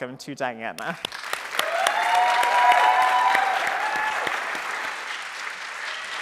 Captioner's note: audience cheering and applauding